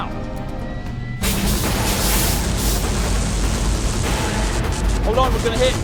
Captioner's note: spacecraft rumbling and sparking